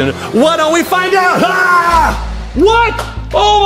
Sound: yells

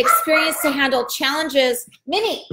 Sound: dog barks

